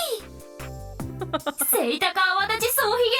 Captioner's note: chuckles